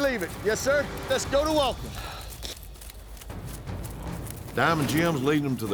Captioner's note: hoofbeats